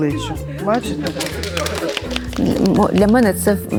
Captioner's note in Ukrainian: оплески